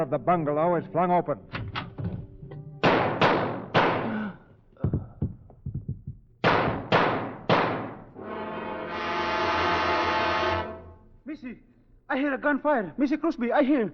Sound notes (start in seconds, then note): 2.8 gunshots; 4.9 dramatic music